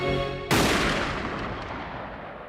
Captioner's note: gun shot